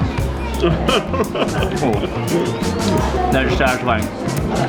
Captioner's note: laughing